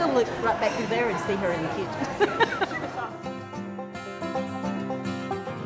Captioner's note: laughs